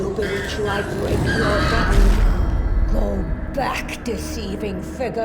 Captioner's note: Baylock growls